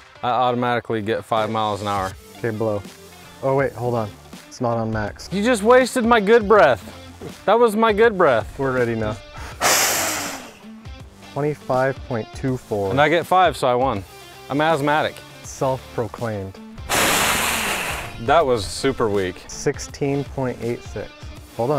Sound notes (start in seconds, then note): 9.3 blowing; 16.7 blowing